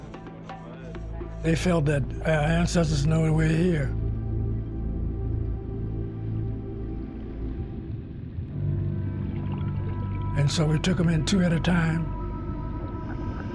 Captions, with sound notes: They felt that our ancestors know we were here. [bubbles burbling] And so we took them in two at a time.